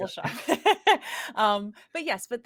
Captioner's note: laughs